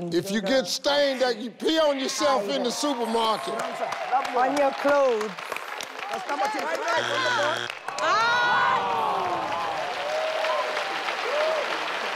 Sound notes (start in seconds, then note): 6.8 failure buzzer buzzes; 7.0 disappointed yelling